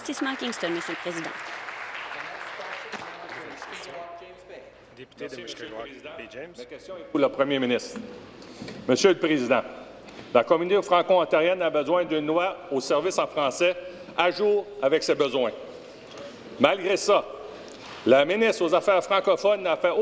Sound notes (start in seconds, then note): 5.2 applause